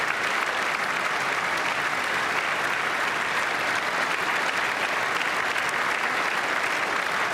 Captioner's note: applause